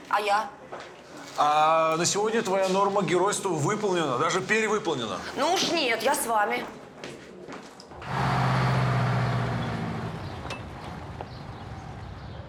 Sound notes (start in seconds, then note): 8.0 car sounds